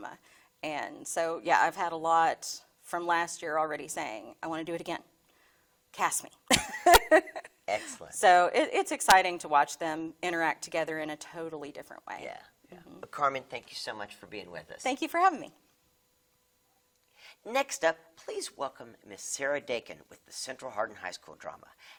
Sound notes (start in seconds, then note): 6.5 laughing